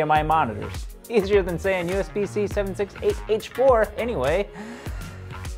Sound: deep breath

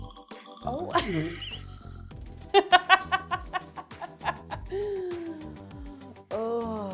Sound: chuckles

